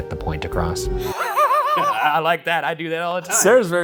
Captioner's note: both laughing